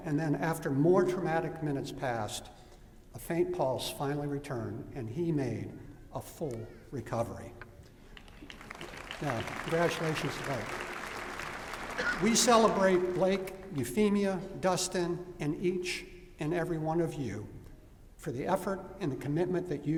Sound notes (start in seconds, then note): 8.1 applause